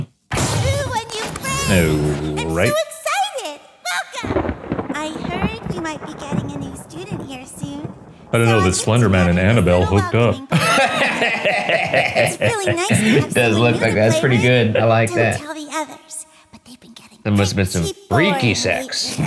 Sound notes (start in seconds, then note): 10.4 laughing